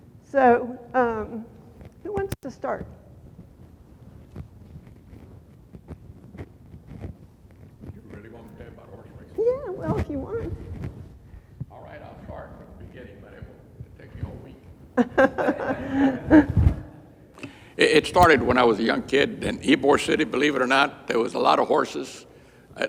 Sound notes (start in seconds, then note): 14.9 laughter